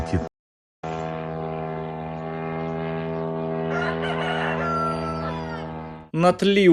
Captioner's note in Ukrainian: звук дрона